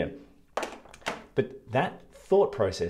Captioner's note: sunglasses tapping